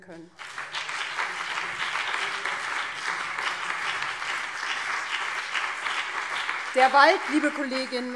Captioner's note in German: Beifall BÜNDNIS 90/DIE GRÜNEN und vereinzelt CDU